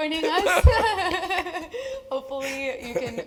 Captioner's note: laugh